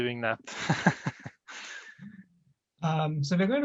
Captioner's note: laughter